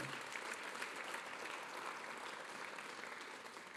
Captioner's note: applause